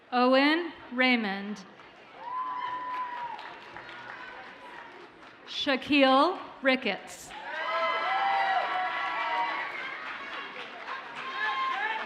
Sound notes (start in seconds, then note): 1.8 audience cheers and applauds faintly; 7.3 audience cheers and applauds